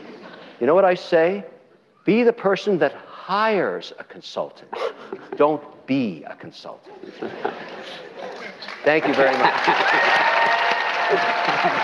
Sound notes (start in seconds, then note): 8.4 applause; 8.9 cheering